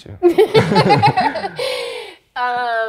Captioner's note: laughs